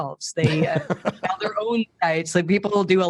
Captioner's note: laughing